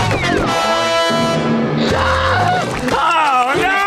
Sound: screaming

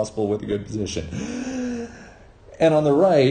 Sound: deep gasp

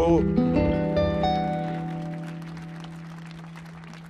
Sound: audience clapping

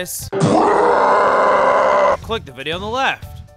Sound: bwaaahhhhhh

